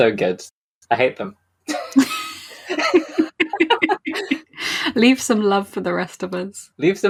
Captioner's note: laughs